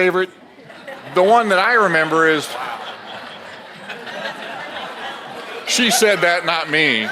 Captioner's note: audience laughs